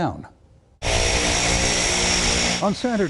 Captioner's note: engine roaring